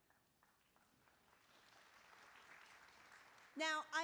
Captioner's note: applause